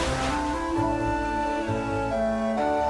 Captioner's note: whir; buzz